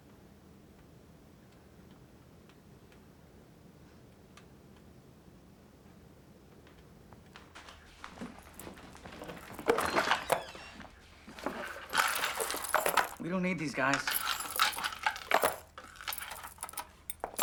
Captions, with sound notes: (door creaking) (metal clanking) - We don't need these guys. (metal clanking)